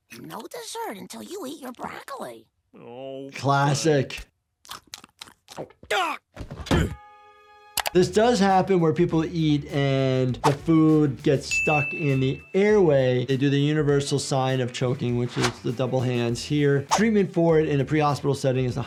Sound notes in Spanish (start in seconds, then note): 4.4 Homero grita; 4.4 ruido sordo